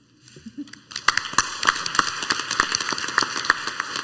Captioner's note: clapping